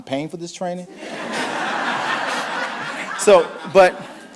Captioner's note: audience laughing